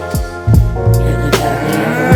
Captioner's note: cow softly moos